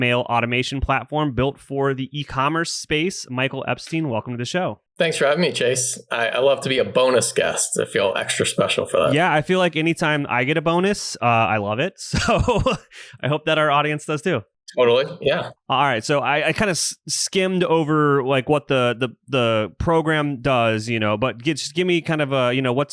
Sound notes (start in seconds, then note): 12.2 laughs